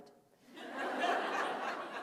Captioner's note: laughter